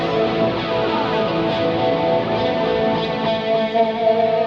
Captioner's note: horn honking